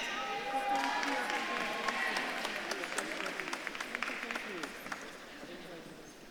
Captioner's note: audience claps and cheers